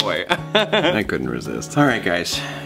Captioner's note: laughs